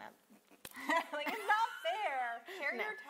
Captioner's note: laughs